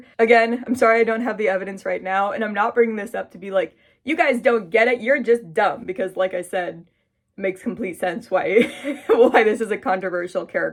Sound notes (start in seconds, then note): 3.7 mocking voice; 8.3 laughing